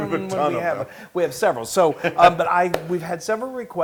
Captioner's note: laugh